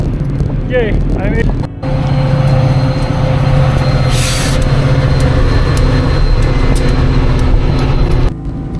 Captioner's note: loud diesel noises